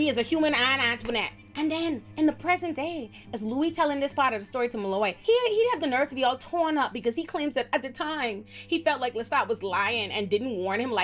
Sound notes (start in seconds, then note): none